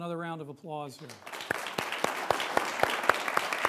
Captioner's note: applause